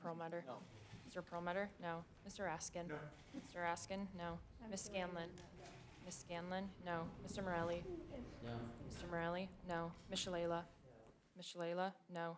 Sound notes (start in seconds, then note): 2.8 laughs